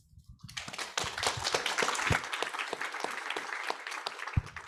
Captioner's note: audience applauds